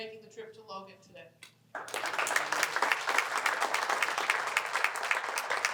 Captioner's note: applause